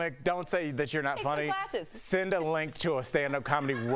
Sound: laughter

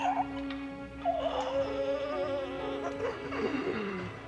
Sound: gasping

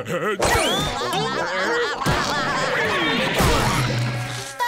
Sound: laughing; SpongeBob shouting; laughing

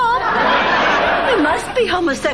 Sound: audience laughing

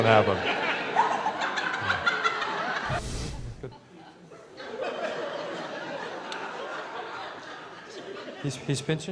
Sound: laughter

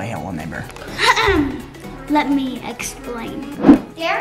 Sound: clears throat

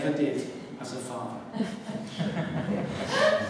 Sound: laughter

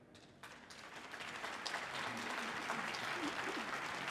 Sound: audience applauding

